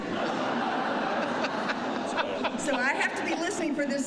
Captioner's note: laughter